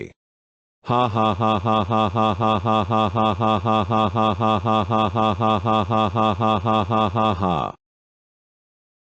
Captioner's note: evil laugh